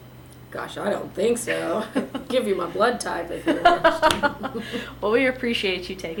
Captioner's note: laughter